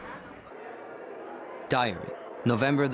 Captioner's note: crowd murmuring